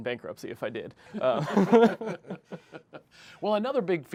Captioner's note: laughter